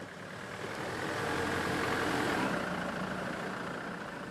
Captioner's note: engine rumbling